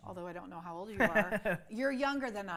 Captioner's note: laughs